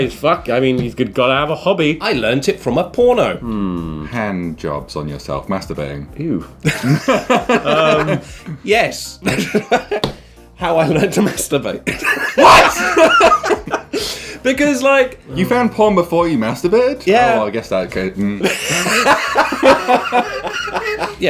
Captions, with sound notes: - "Ay, fuck, I mean he's gotta have a hobby." - I learnt it from a porno. - Hand jobs on yourself, masturbating? - Ew. (laughing) - Um. - Yes. (giggling) How I learned to masturbate. - What? (laughing) - Because like-- - You found porn before you masturbated? - Yeah. - Oh, I guess I could. (laughing)